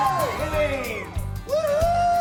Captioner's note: people shouting